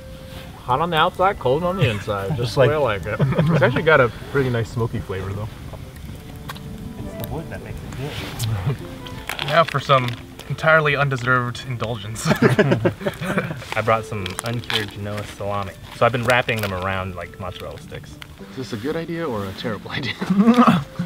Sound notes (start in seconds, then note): 12.2 all laugh